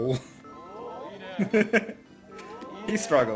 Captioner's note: laughs